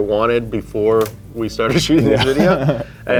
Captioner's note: chuckles